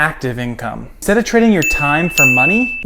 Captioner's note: bell chiming